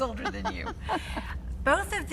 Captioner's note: laughs